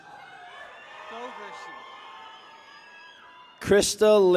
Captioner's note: people cheer